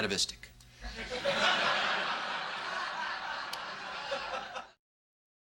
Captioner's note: sitcom laughter, but a bit different